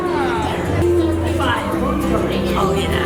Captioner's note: whispers